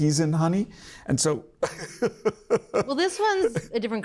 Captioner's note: laughs